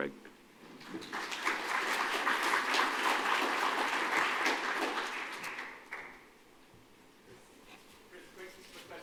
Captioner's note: applause